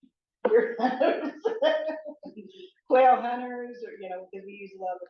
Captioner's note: laughs